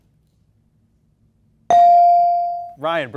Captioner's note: bell dings